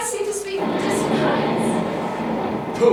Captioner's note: thunder